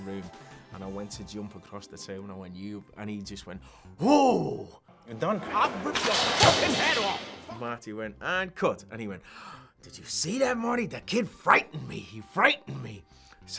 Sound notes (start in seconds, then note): 5.3 ice cream bowl crashing on the floor; 9.2 gasp